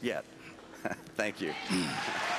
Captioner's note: applause